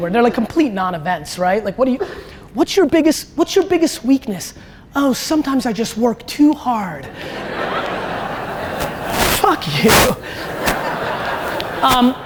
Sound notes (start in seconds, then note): 7.2 audience laughter